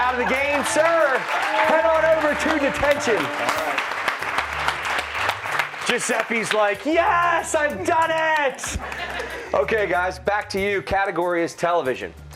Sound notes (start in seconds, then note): 3.0 applause; 8.6 laughter